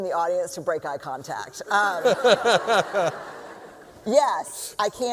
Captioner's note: laughter